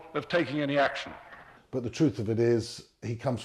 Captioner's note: voiceover